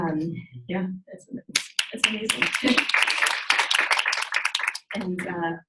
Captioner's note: audience applauds